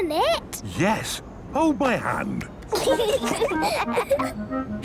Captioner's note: children giggling